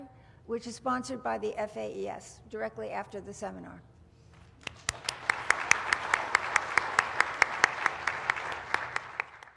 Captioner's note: applause